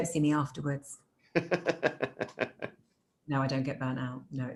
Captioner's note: laughing